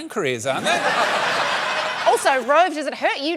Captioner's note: laughter